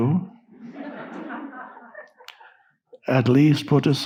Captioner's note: audience laughing